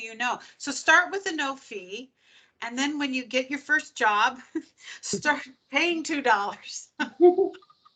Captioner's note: laughing